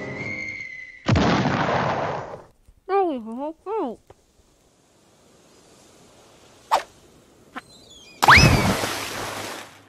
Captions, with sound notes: [boom] Now we have a boat! [splash]